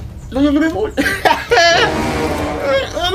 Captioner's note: laughing